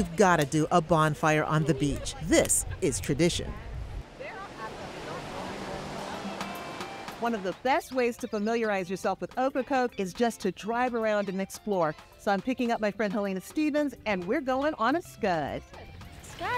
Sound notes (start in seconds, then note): 4.8 waves susurrating